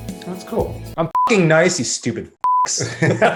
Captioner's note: beep; both laughing